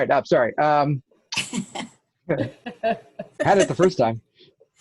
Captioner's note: both laugh